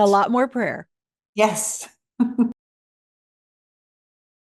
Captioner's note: chuckles